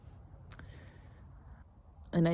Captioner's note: clicks tongue, sucks through teeth softly